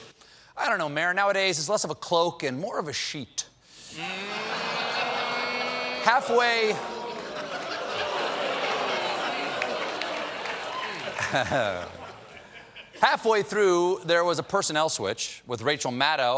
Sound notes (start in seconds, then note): 3.9 audience reacts; 11.6 laughter